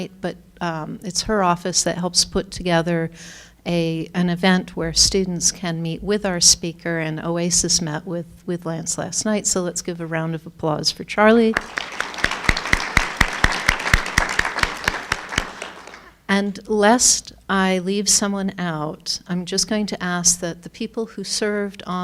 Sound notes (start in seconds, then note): 11.5 applauding